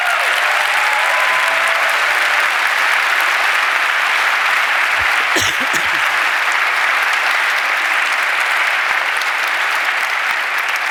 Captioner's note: applause